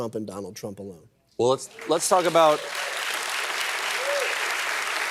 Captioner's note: applause